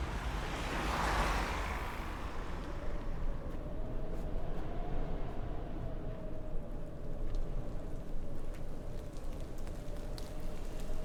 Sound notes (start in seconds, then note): 2.6 wind howling; 8.4 rain pattering